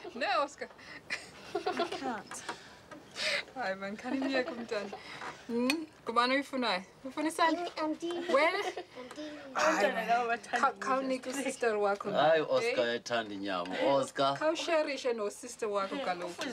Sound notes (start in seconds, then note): 0.1 speaking Swahili; 1.2 children laughing; 3.2 speaking Swahili; 9.5 children chattering in Swahili; 12.1 Solomon speaking Swahili